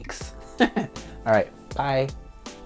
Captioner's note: chuckles